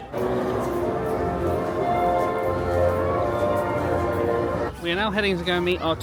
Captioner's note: crowd murmuring; dramatic music